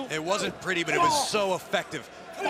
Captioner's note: crowd cheering